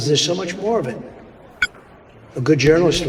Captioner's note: controller beeps